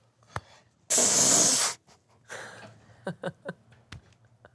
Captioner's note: laughs